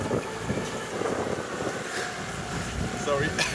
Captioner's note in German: Wind bläst